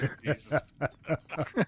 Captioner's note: laughter